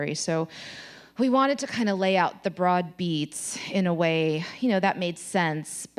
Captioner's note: none